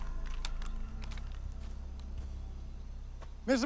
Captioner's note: birds chirping